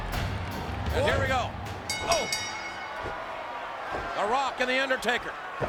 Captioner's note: crowd shouting; music fades; bell ringing